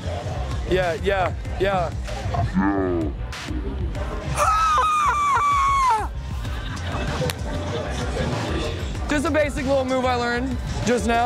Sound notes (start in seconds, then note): 4.1 shouts